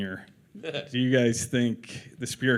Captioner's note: chuckles